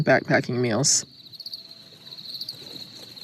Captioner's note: sound of crickets